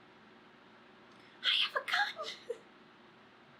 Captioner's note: laughs